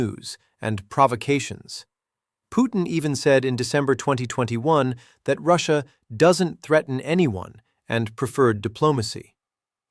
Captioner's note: sarcastic